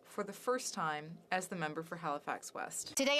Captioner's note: speaking French